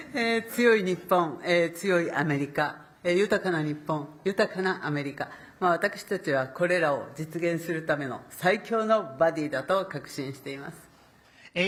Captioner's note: speaking Japanese